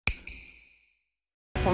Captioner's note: snap